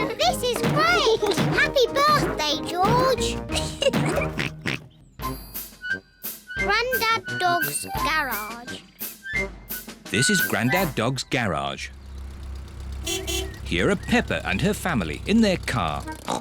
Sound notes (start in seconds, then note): 2.0 oinks; 2.7 laughs; 12.8 horn beeps